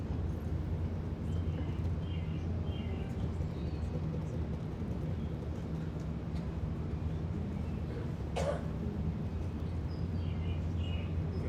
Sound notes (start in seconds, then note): 2.0 birds chirping